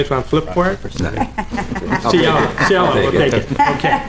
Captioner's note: laughter